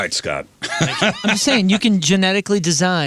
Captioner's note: laughing